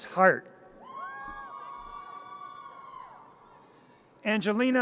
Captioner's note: audience cheers